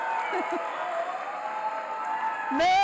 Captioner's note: applause; brief laughter